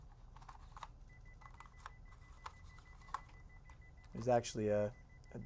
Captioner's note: beeping